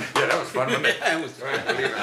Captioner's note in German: Sie lachen